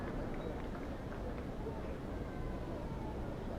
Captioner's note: applause